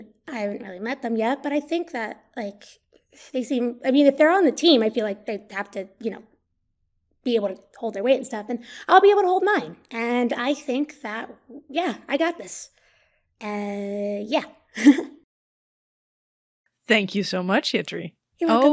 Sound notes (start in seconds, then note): 14.8 giggles